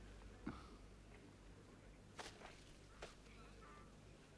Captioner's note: Pateray chuckles